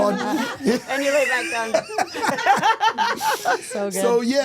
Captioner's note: laughs